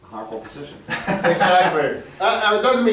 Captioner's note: laughs